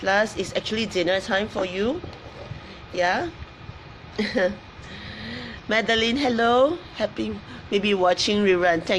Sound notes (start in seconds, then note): 4.2 laughs